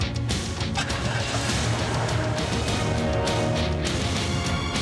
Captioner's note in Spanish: ruido del auto al irse